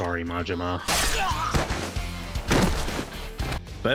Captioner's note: pained Groan